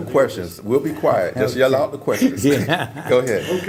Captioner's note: laugh